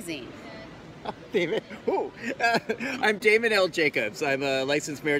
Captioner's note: laughs